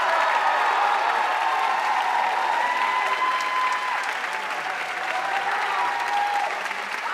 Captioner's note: audience cheering and applauding